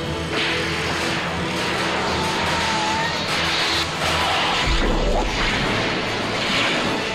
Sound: brakes squeal; whooshing

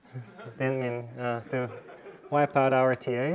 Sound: students laughing

